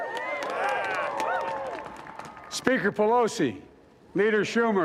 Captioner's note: cheering